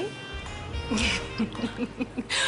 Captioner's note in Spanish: Risas